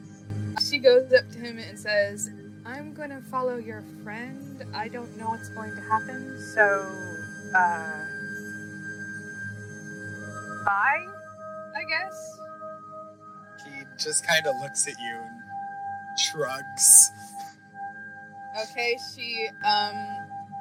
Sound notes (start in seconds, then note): 17.1 chuckles